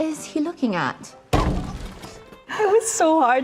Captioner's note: window banging